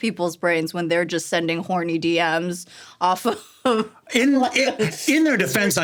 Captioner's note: laughing